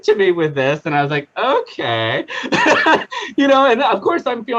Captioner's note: laughing